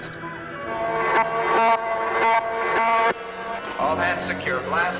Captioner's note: buzzing